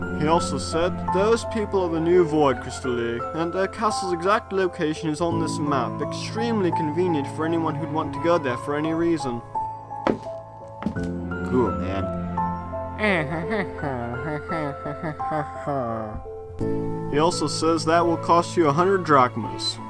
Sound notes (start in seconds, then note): 13.0 Wacky Walter whispers